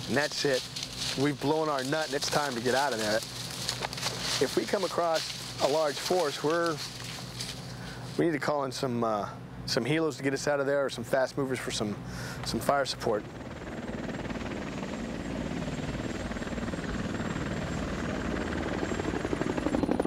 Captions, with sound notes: and that's it, we've blown our nut, it's time to get out of there. If we come across a large force we need to call in some helos to get us out of there or some fast movers for some fire support. (helicopter whirring)